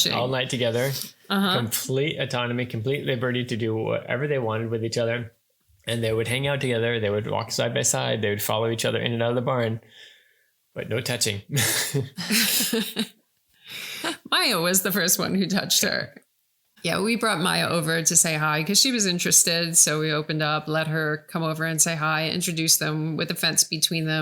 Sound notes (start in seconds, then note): 11.5 laughing